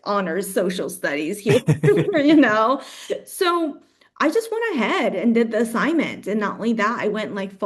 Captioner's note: laughs